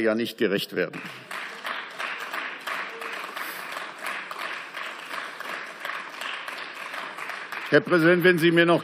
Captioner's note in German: Beifall